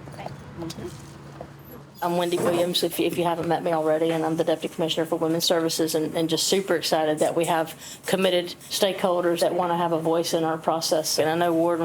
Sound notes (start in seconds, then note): 0.6 indistinct conversation